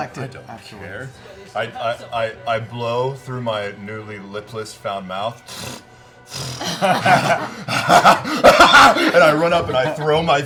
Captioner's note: laughs